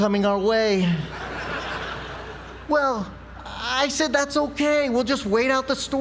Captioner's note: laugh